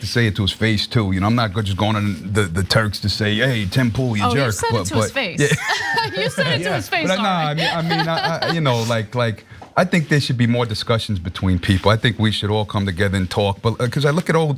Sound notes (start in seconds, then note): 4.2 laugh